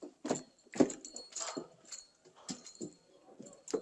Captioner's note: none